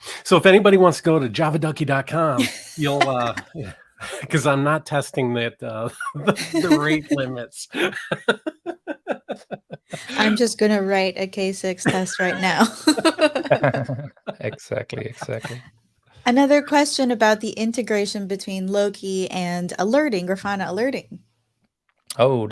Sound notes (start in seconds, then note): 7.6 laughing; 11.8 all laughing